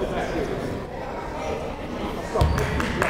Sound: shouting

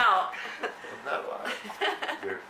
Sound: laughter

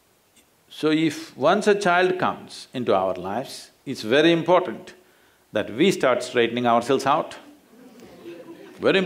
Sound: laughter

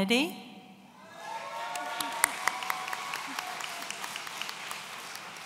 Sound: audience cheering

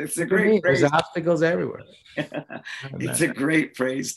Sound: laughs

